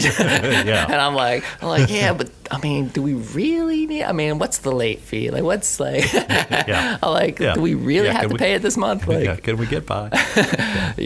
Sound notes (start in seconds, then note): 0.0 he laughs; 6.0 he laughs